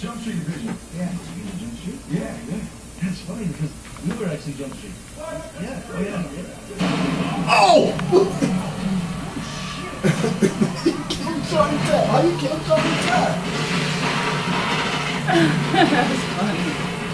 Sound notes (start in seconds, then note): 6.6 booming sound coming from TV in background; 7.4 daddy, in the background, laughing; 10.0 laughing from movie; 13.5 movie on TV continues playing in background; 15.2 laughing